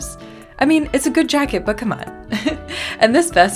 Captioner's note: laugh